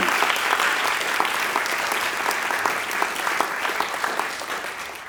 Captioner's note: applause